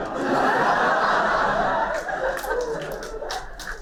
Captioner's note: laughter